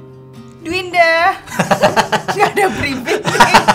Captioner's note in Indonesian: Tertawa